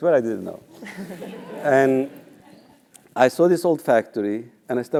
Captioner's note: laugh